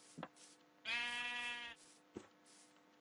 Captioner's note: sheep bleating